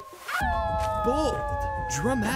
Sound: howling

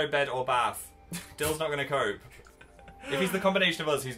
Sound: laughs

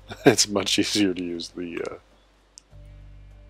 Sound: laughing

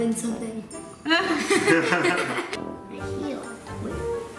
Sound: laughing

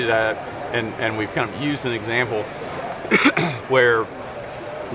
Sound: coughs

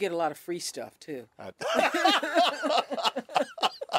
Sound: laughter

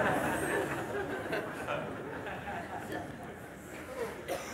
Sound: laughter

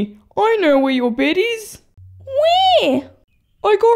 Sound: none

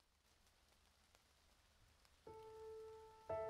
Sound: static crackling; soft solemn music

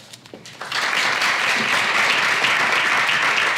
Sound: applause

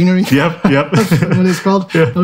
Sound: chuckles

